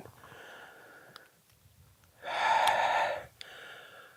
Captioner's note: sighs